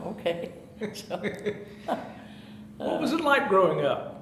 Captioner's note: chuckling